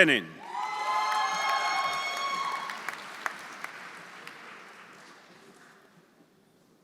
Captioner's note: audience cheering; audience applauding